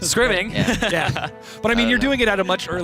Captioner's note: laughs